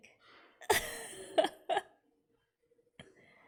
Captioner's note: laughs